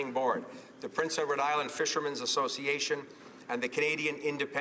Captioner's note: speaking in french